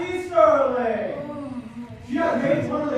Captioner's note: Cassey groans